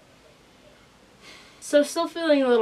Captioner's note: sighs